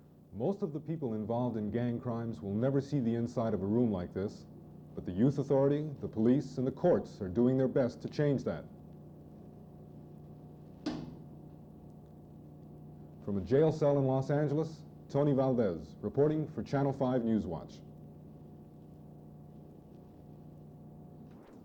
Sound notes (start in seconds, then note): 10.8 sound of cell door closing